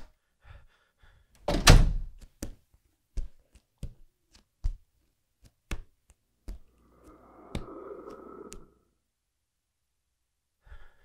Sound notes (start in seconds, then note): 1.5 door Slam; 2.2 footsteps Turning